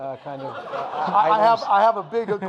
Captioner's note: audience laughing